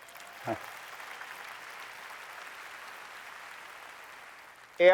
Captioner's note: applause